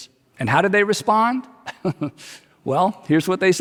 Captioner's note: chuckles